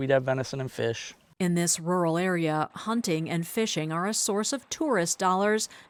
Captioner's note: voice-over